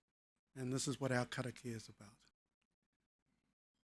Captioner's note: speaking foreign language